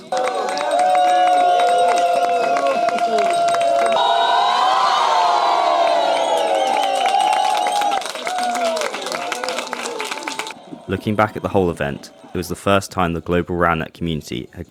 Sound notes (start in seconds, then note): 0.1 applause; 4.0 cheering